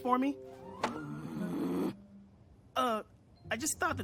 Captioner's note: groaning